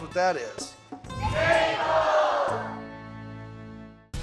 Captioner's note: everyone shouting